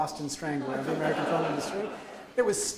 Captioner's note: audience laughs